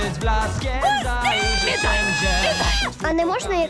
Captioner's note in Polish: krzyczą wściekle